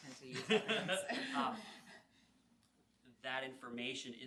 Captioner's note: laughing